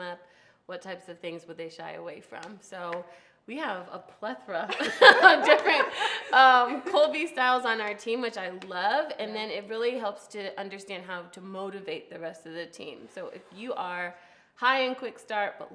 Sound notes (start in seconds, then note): 4.7 laughs